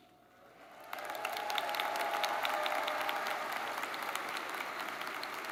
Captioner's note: audience cheers and applauds